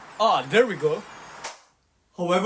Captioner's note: clap